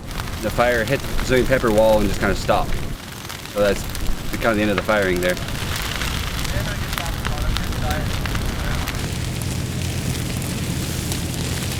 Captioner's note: sound of radio traffic and flames; sound of flames crackling